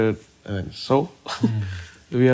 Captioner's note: laughs